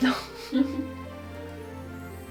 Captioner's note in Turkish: gülüşmeler